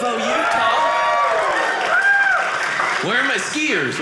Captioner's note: audience cheering